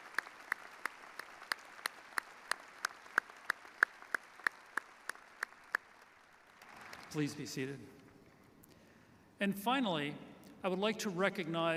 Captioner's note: applause